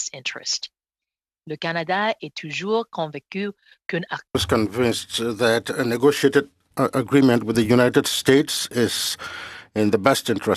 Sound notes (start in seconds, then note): 8.2 speaking french